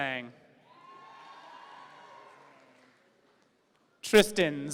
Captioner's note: audience cheering